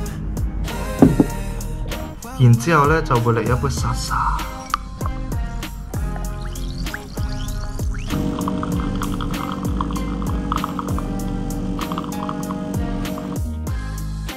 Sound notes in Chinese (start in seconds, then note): 6.3 氣泡的聲音; 8.1 咖啡滴漏的聲音